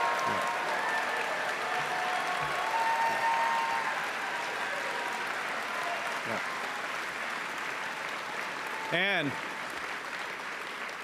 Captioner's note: cheering and Applause